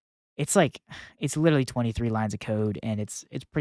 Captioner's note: sighs